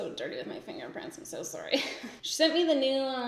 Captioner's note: giggles